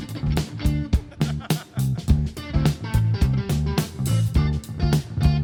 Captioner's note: funky rock music; laughing; funky rock music continues